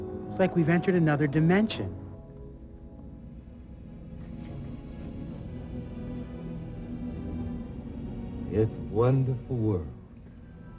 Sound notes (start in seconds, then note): none